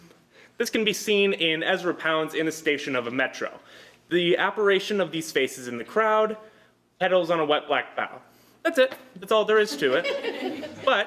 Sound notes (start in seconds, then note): 9.6 laughter